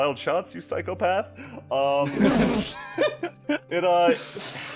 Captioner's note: laughter